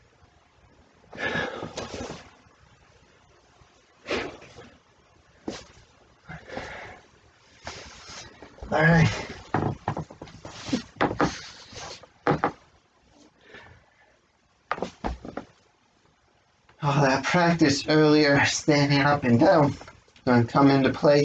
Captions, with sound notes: (Deep breathes) All right. (Creaking of the floor) All that practice earlier standing up and down is going to come into play